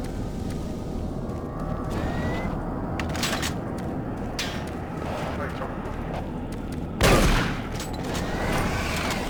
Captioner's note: gunfire